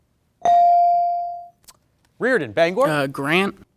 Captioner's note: bell dings